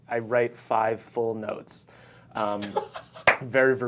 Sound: laughing

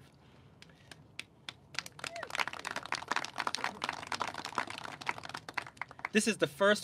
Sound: clapping

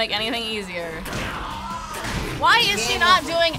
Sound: Suicune groans

